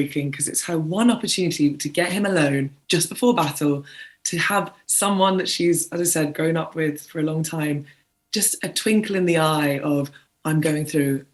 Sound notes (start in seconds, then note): none